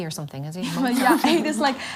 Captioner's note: girls laugh